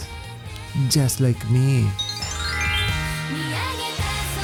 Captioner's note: magic sound